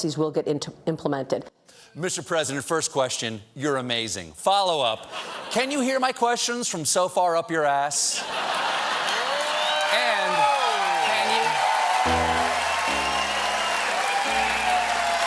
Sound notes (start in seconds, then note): 8.2 laughter; 11.4 cheers and applause; 12.0 piano riff